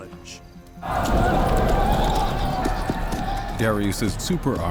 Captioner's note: deep rumble